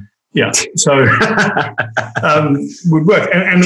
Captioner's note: laughs